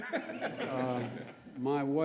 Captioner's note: laughter